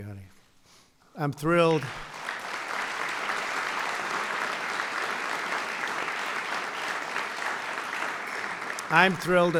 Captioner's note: applause